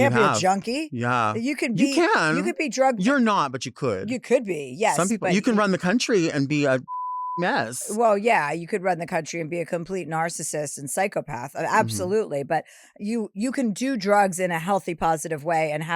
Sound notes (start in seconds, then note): 6.8 beep